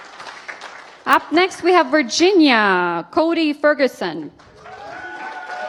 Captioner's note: applause